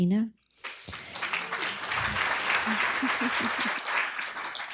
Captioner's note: applause